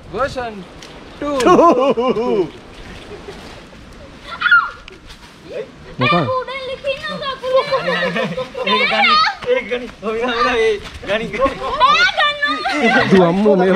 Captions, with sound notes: Pahanthudawa version 2! [Laughing] There is a leech on my leg! [Shouting]